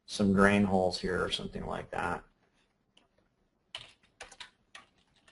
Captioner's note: clicks buttons